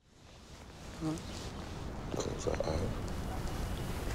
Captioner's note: birds chirping